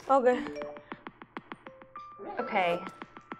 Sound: text alert

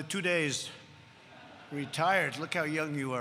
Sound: laughter

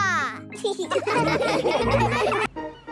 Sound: laughing

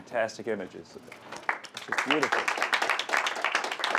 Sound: applause

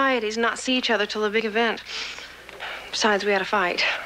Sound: breathes deeply

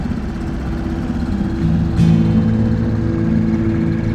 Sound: dinghy engine revs; soft music

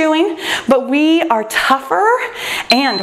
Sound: timer beeps

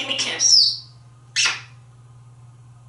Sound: smooch

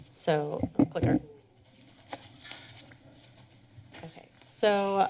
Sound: rumbling sound

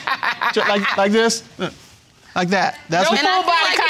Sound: laughing

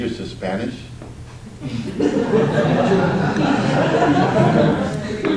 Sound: audience laughs

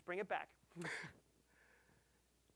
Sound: chuckling

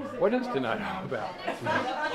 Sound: chattering

